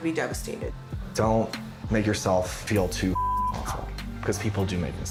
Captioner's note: beep